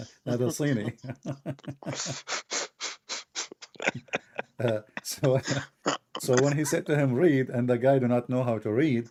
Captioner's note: Ketawa